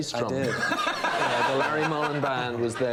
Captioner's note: laughing